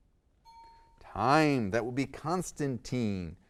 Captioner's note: ding